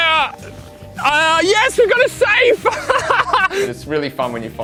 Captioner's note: laughs